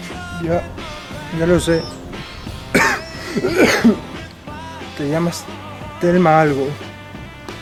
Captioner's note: coughs